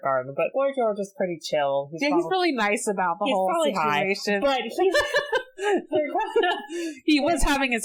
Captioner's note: laughs